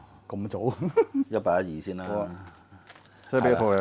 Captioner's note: haha!